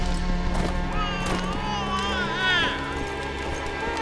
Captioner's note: baby babbling